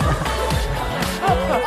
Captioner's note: laughing